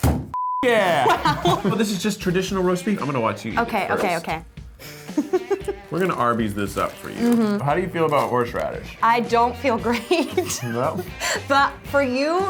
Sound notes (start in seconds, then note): 4.8 laughing; 9.9 laughing